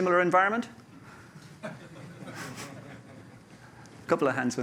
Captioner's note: laughter